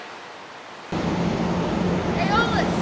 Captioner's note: wind blowing